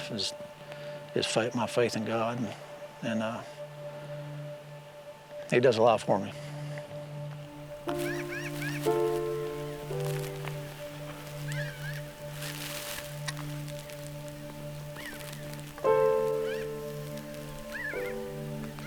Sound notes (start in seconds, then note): 8.9 calm music; 9.7 birds chirping